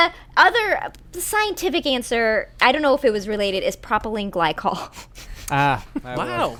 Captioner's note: laughter